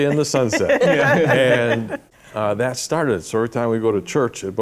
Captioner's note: laughter